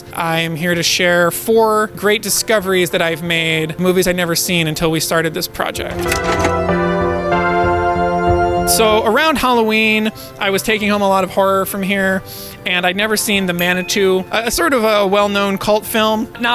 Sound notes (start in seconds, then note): 5.8 VHS tape clicking; 13.7 movie box cover dinging